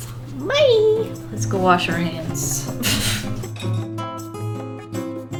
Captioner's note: laughs